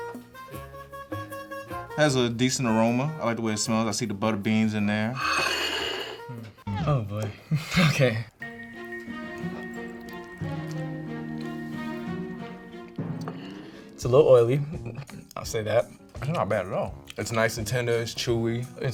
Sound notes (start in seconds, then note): 7.3 chuckles; 8.4 dramatic music